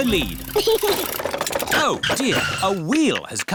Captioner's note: chuckles